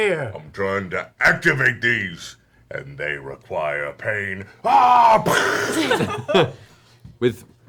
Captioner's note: yells